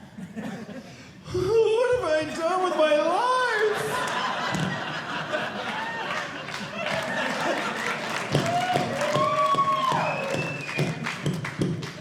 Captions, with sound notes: What have I done with my life? (audience laughing) (audience cheering)